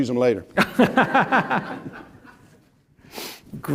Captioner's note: laughter